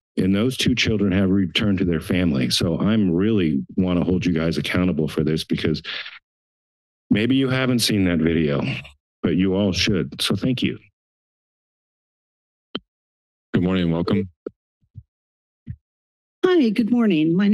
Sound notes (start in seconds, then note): 11.2 silence